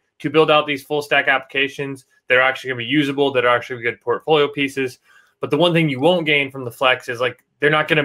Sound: none

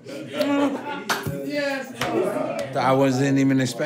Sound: laughter; indistinct chatter

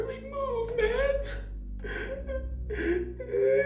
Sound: crying

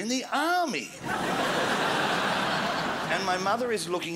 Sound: crowd laughs

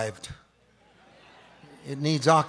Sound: audience chuckles

